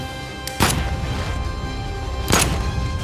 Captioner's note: gunshot